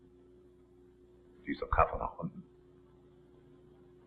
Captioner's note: speaks foreign language